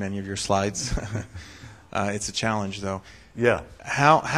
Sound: laughs

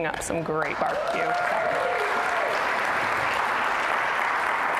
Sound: audience applause

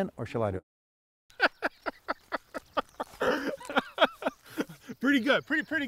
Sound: laughing

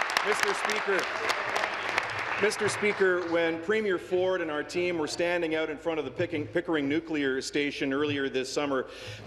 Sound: applause

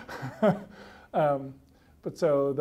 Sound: laughs

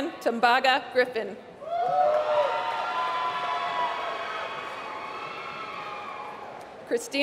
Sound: applause

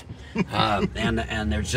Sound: chuckles

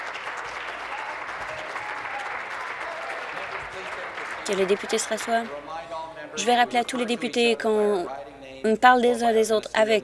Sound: applause

